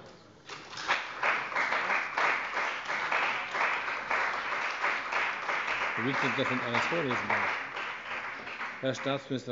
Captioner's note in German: Beifall bei dem BÜNDNIS 90/DIE GRÜNEN und der CDU